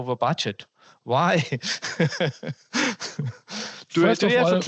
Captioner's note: laughter